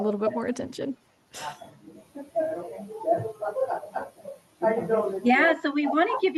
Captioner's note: participants chattering